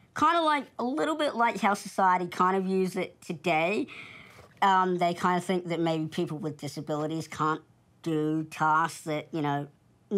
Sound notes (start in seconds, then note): none